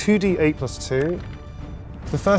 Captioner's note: die rattles